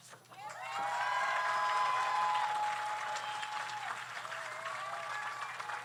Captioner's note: audience applauds; audience cheers